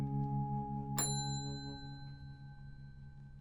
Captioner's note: bell dings